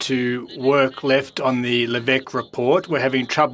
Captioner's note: speaking French